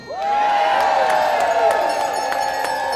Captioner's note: audience cheering